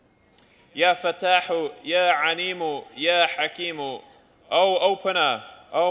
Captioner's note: non-english speech